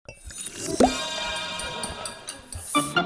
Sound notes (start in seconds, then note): 0.2 glass chiming; 2.5 upbeat music